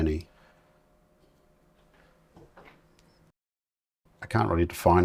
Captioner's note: silence